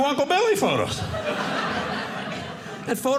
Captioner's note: audience laughing